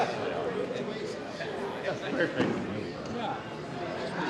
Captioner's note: chattering